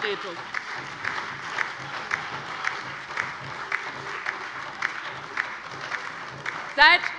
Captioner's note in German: Lebhafter Beifall bei der LINKEN und der SPD